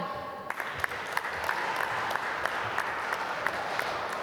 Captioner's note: applause